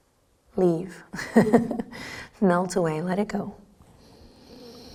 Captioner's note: chuckles